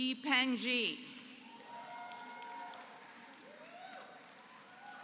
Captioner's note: applause